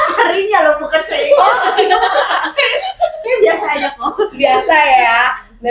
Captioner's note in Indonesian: tertawa